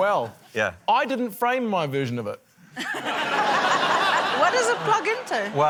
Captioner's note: laughter